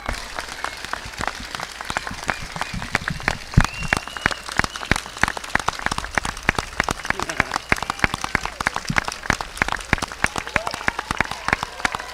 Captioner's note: applause